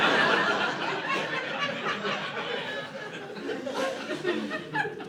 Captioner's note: laughter